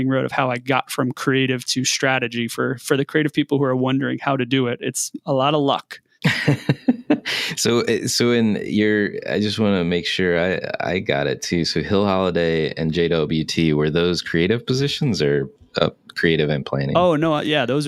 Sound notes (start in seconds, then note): 6.2 laughing